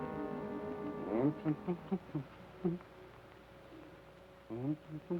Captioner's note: Joshua hums melodically